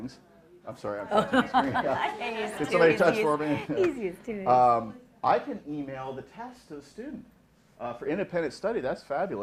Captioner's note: laughing